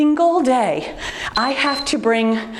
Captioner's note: timer beeps